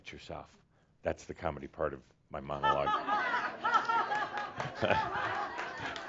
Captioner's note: laughs loudly along with audience laughter